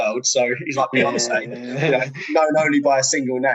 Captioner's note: laughing